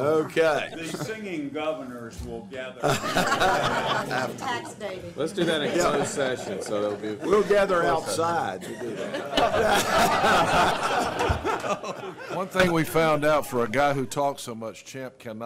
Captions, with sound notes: >> OKAY. >> THE SINGING GOVERNORS WILL GATHER. >> LET'S DO THAT IN CLOSED SESSION. >> WE'LL GATHER OUTSIDE. [LAUGHTER] ONE THING WE FOUND OUT FOR A GUY WHO TALKS SO MUCH, CHAMP CANNOT